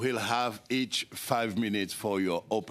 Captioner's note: speaking French